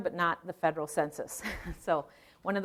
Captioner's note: chuckling